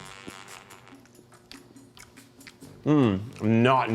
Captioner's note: lively music; chewing loudly